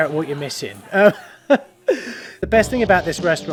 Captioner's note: laughs